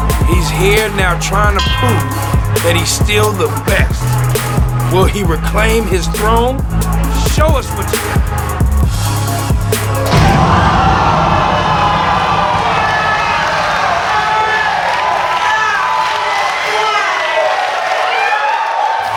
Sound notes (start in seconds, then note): 10.6 spectators applauding